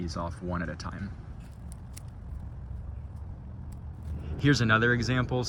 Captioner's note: cutting Sounds